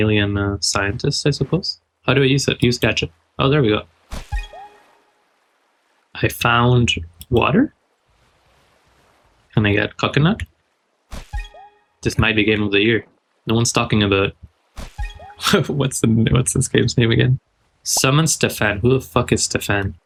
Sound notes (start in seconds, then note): 15.3 laugh